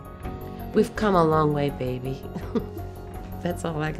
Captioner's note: laughs